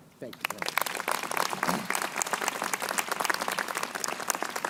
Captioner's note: crowd applauding